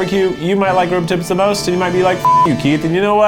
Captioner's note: beep